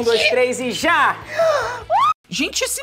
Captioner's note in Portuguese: faz som de surpresa